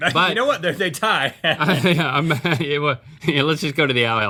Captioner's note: laughing